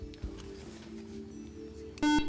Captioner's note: whispering; buzzer